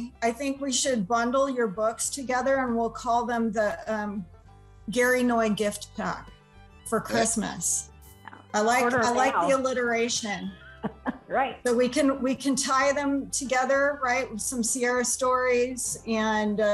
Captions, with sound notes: I think we should bundle your books together and we'll call them the Gary Noy gift pack for Christmas. I like the alliteration. >> [LAUGHTER] Right. >> We can tie them together with some Sierra Stories and